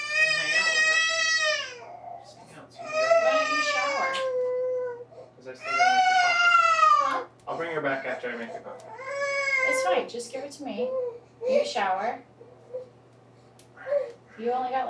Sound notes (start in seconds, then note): 9.6 baby still crying